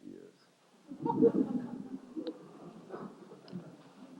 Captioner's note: laughter